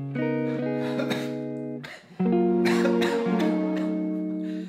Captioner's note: coughing